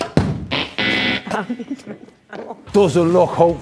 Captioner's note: laughing